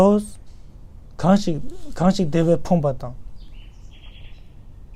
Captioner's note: tibetan